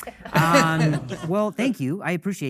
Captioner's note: audience laughing